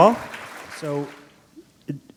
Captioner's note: applause